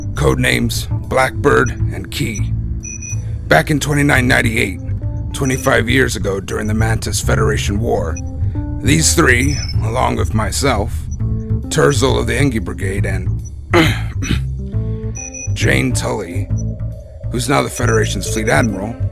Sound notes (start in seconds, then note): 13.7 cough